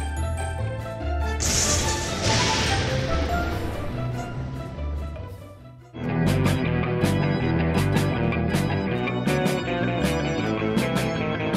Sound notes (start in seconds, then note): 1.4 lightning crackling; 6.5 uptempo eerie music